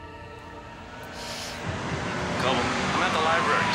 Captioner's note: siren wailing